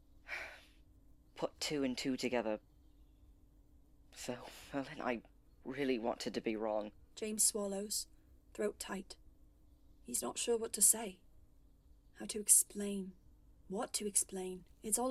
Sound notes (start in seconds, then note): none